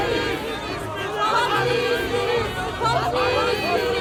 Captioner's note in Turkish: Hep bir ağızdan